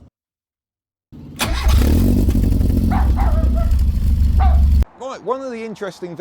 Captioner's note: engine Start